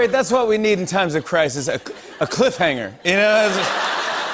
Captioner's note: laughter